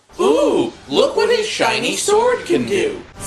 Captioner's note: none